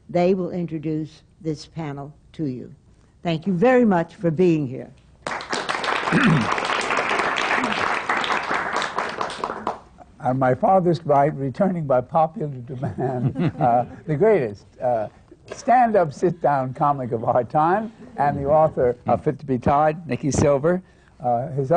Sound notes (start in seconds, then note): 8.2 applause; 12.7 laughter